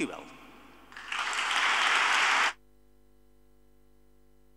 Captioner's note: audience applauding